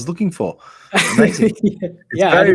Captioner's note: laughs